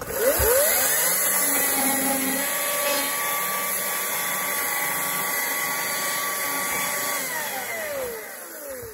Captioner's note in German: Geräusch einer elektrischen Kettensäge